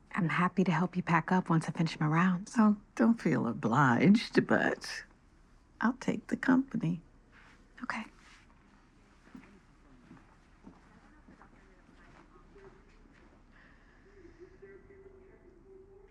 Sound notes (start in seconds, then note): none